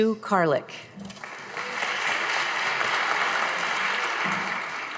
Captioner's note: audience applauding